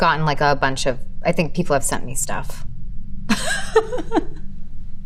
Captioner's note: laughing